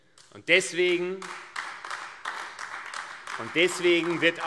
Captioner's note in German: Beifall AfD